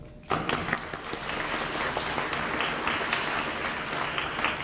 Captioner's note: audience applauding